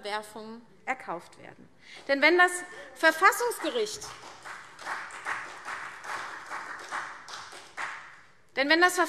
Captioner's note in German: Beifall CDU